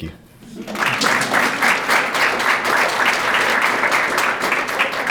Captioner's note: crowd clapping